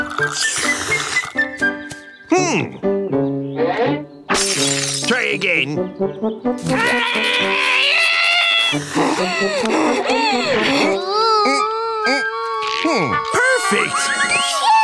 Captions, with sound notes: Hmm. Try again. [growling] [panting] -Hmm, perfect! -Phew!